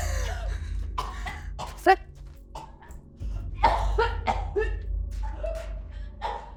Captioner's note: coughing violently